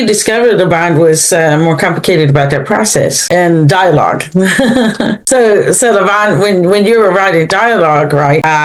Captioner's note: laughs